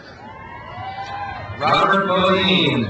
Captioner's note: crowd cheers